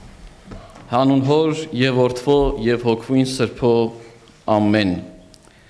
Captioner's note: speaking in a foreign language